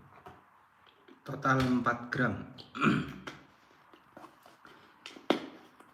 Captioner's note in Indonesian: berdehem